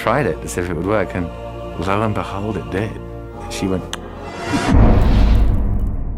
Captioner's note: clicks tongue; impact